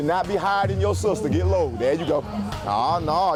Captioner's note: client groaning